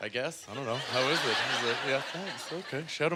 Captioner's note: audience laughter